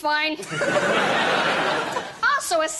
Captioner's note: laughter